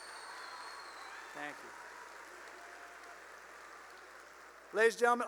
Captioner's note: cheering and applause